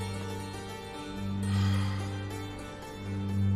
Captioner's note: sighs